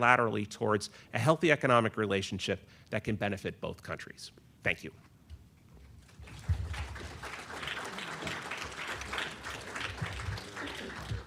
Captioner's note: applause